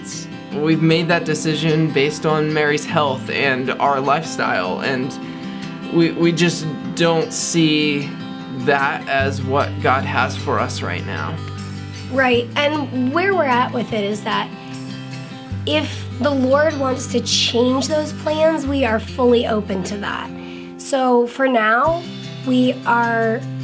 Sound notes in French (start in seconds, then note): none